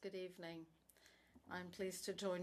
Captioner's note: speaking French